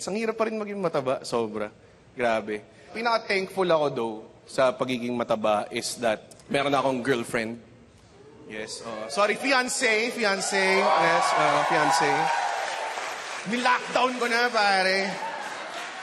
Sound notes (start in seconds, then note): 9.9 audience cheers